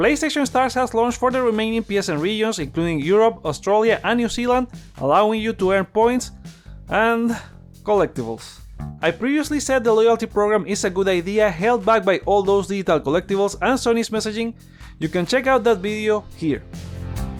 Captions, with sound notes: PlayStation Stars has launched for the remaining PSN regions including Europe, Australia, and New Zealand allowing you to earn points and *sigh* collectibles. I previously said the loyalty program is a good idea held back by all those digital collectibles and Sony's messaging, you can check out that video here.